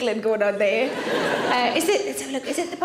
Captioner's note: audience laughing